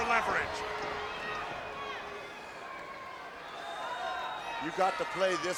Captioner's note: crowd chattering